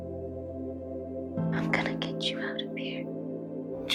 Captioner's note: whispering